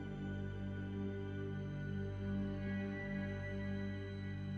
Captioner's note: none